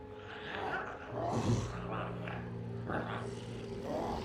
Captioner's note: Smelly grunts; glowzies growling